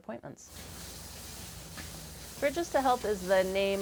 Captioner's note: pump humming